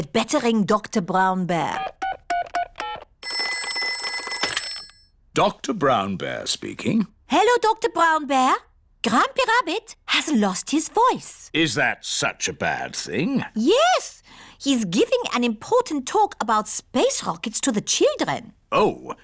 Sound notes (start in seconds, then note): 3.3 ringing